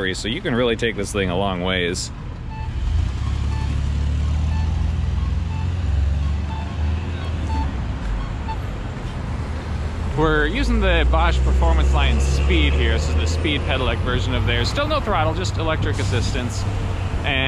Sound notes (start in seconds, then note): 2.8 car engine accelerating; 6.1 beeping alert